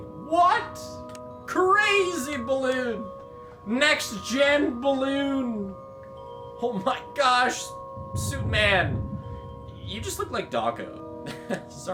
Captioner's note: laughs